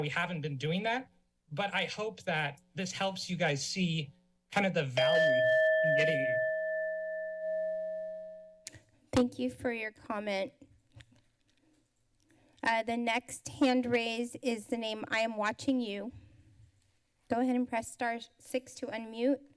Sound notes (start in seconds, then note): 5.0 bell chimes